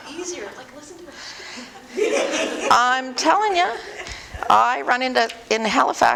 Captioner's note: audience: Laughter